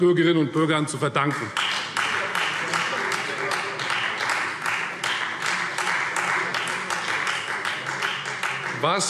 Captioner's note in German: Beifall Freie Demokraten